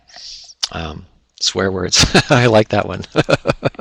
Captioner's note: laughs